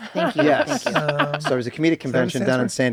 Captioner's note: laughs